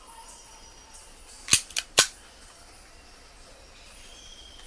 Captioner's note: gun clicks